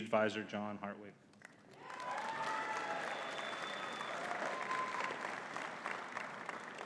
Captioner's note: audience cheering and clapping